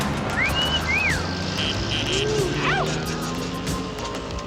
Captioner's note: men catcalling